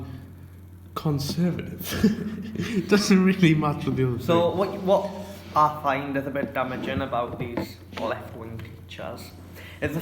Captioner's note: laughter